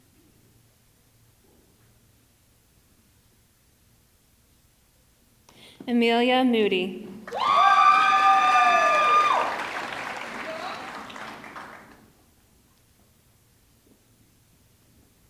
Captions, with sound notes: Amelia Moody, (audience clapping) (audience cheering)